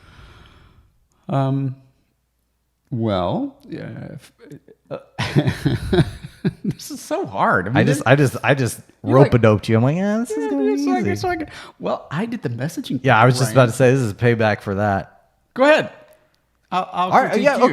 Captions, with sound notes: - Well, yeah. (chuckling) this is so hard. - I just rope-a-doped you. I'm like, (whines) "This is gonna be easy." - Yeah, it's like, "Well, I did the messaging, Ryan." - Yeah, I was just about to say, this is payback for that. - Go ahead, I'll critique you.